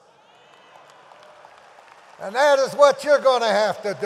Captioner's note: audience applauds